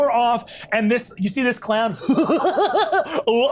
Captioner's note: chuckles maniacally